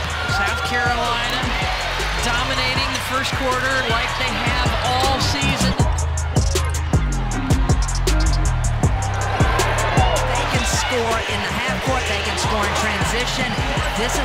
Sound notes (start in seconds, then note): 6.0 crowd cheering; 6.0 hip hop music